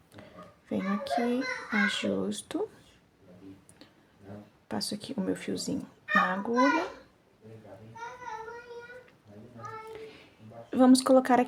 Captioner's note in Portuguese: choro